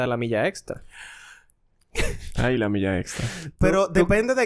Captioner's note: laughs